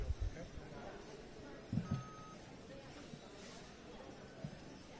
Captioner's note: background chatter